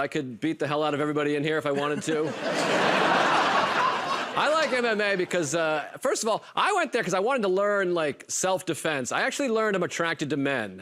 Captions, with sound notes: but I could beat the hell out of everybody in here if I wanted to. [ Laughter ] I like MMA because, first of all, I went there 'cause I wanted to learn, like, self-defense. I actually learned I'm attracted to men,